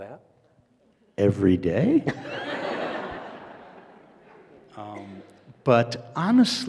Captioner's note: audience laughs